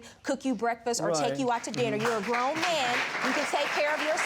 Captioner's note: audience applauding